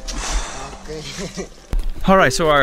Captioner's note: exhales heavily